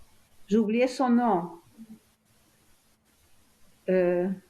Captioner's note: pauses 6 seconds; french